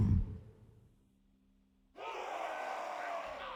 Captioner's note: cheer